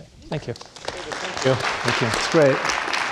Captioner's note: audience applauding